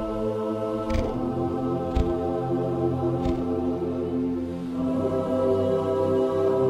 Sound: none

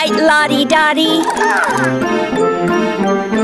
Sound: chirps

